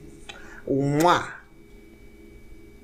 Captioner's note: mwah